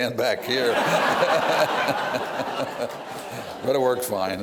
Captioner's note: laughs